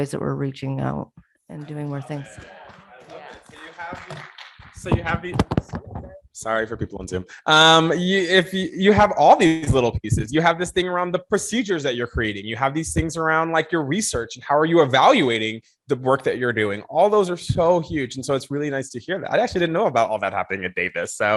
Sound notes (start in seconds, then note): 3.4 people clapping